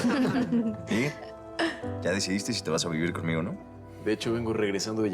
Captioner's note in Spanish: risas